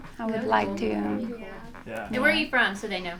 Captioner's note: all muttering agreement